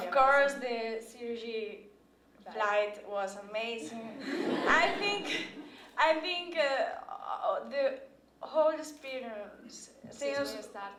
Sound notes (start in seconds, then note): 4.1 laughter